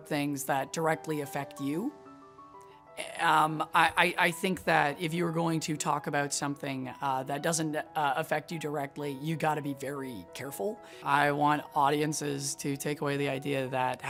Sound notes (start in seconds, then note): none